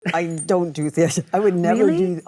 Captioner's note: Cate laughs